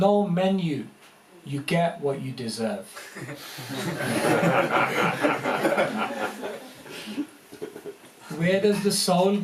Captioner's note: laughter